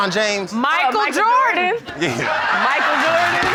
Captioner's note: laughter